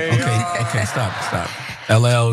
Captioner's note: laugh